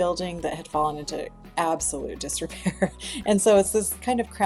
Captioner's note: laughs